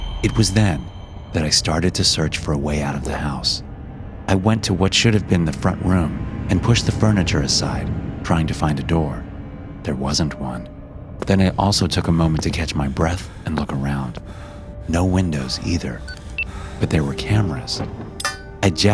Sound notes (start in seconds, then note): 0.0 gentle suspenseful music; 10.4 gentle suspenseful music; 16.1 whimpers